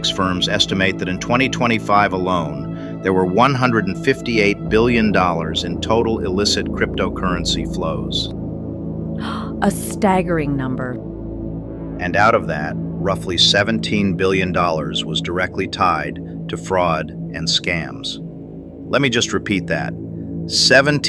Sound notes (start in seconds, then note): 9.2 gasps